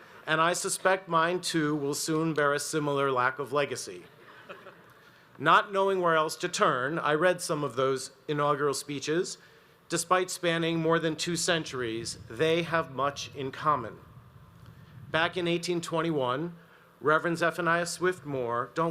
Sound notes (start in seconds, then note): 4.3 audience laughs